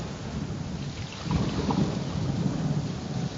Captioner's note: water splashing